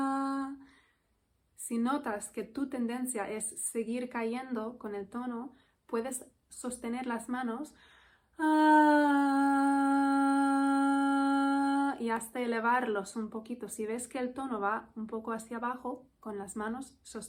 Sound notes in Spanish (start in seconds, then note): 0.0 suspiro y tono; 8.3 suspiro y tono